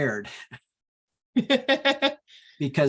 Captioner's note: laughs